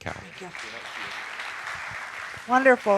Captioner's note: audience applauding